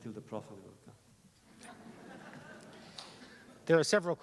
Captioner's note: laughter